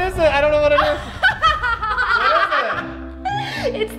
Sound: laughing

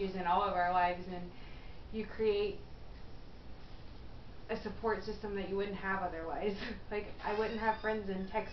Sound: laughs

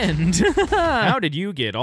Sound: laughter

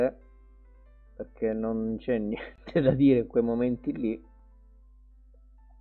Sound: laughs

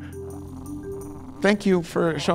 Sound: water burbling

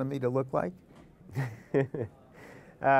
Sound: laughter

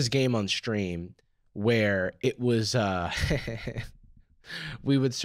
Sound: laughs

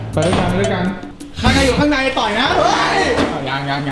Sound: screaming

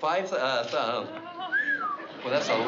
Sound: whistle

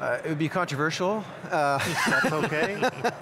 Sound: laughing

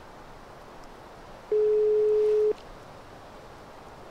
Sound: phone dialing

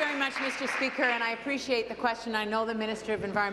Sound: applause

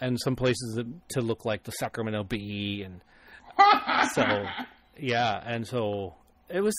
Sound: laughs

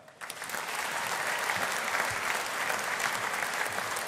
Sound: audience applauding

